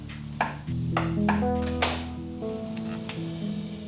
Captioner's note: door opens